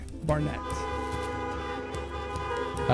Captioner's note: honking